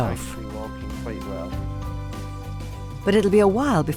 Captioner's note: Noel speaking faintly